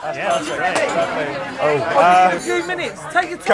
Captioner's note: loud chatter and background noise